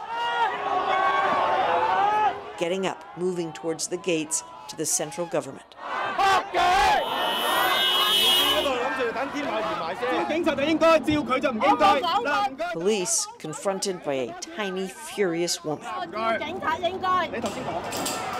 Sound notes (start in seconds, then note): 7.5 chants; 15.4 speaking chinese